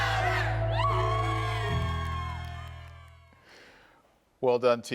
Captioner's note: group cheers